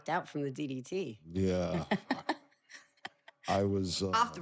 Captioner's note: laugh